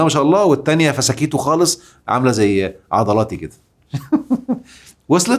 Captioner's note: laughs!